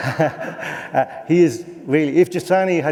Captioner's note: laughter